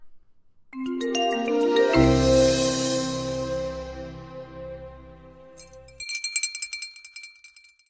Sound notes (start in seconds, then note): 0.8 instrumental jingle; 5.6 chime bell